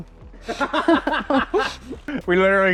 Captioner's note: both laugh